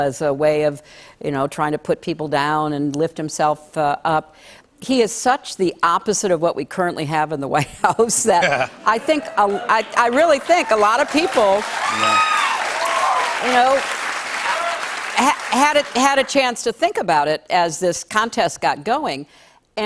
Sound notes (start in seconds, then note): 8.9 cheers and applause